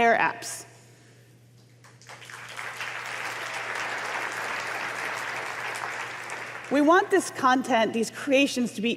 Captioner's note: applause